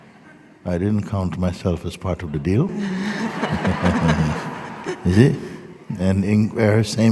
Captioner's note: laughter